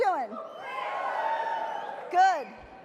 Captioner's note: audience cheers